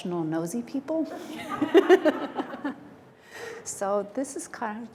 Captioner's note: laughter